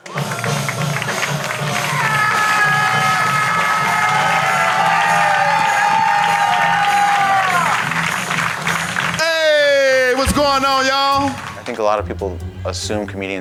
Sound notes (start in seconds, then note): 0.3 upbeat rock music; 2.2 audience cheering